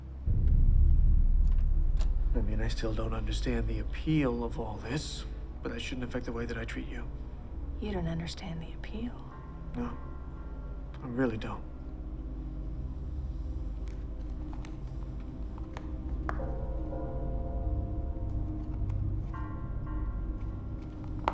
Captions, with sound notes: (suspenseful music) - And I mean, I still don't understand the appeal of all this, but that shouldn't affect the way that I treat you. - You don't understand the appeal. - No, I really don't. (suspenseful music) (shoes tapping)